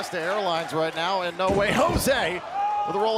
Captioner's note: crowd cheering